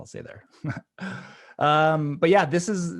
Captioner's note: chuckling